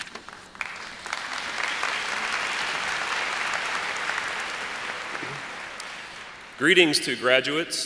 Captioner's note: applause